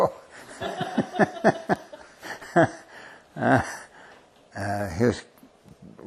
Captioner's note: laughter